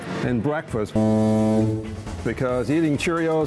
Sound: horn beeping

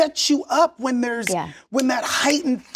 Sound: snaps fingers

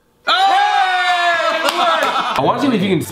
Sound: cheering; both yelling

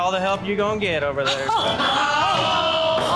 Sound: laughing; judges gasping

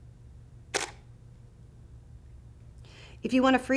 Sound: camera shutter clicks

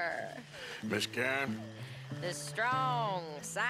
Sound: sighs

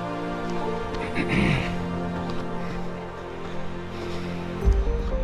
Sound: clearing throat

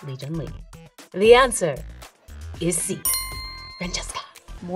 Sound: bell dinging

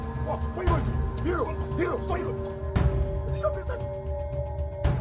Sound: foreign language

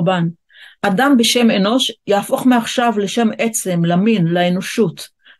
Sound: in Hebrew

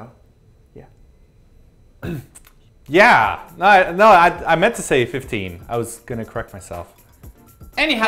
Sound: cough

